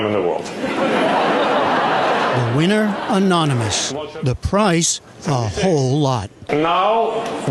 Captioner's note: laughter